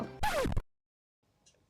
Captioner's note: record scratch